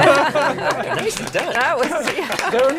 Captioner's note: applause